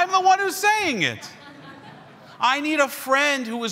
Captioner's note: everyone chuckles